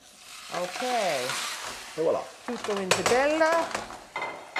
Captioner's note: speaking Italian